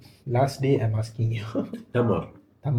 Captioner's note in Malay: ketawa